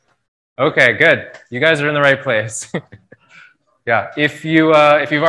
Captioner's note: laughs